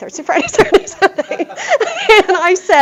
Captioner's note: laughter